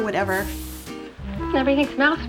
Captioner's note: hair spray hissing